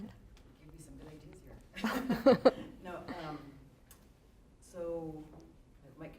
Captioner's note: laughter